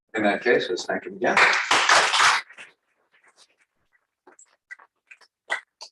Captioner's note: applause